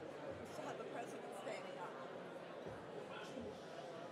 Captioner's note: voiceover